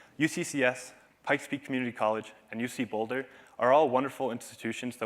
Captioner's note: none